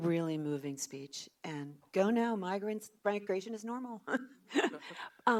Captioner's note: laughs